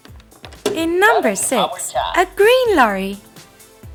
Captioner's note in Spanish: Suena una voz en Coreano